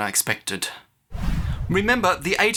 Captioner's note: whoosh